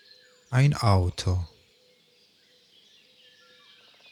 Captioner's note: german